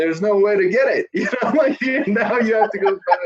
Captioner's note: laughing